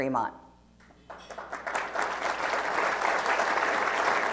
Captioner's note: applause